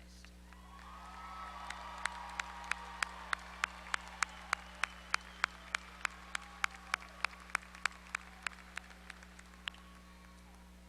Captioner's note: applause